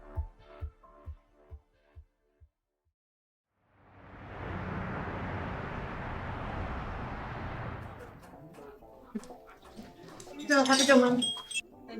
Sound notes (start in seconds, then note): 7.9 people chattering; 8.2 soft instrumental music